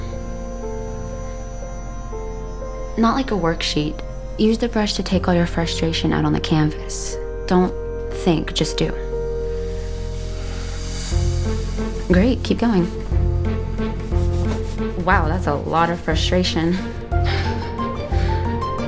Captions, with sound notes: Not like a worksheet. Use the brush to take all your frustration out on the canvas. Don’t think, Just do. Great. Keep going. wow. That's a lot of frustration. (Sighs)